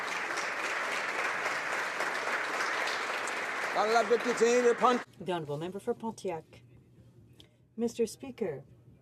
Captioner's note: applause